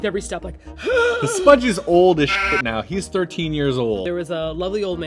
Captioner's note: another old man wheeze; old man wheeze; sheep noise